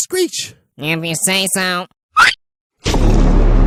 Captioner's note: screech